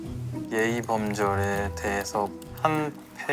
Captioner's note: typing away